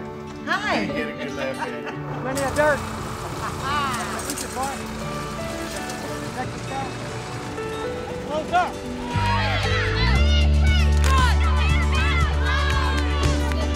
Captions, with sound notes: - Hi! - I knew you'd get a good laugh in! (laughing) (farm equipment rumbling) (cheering)